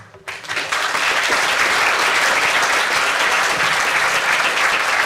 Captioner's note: audience applause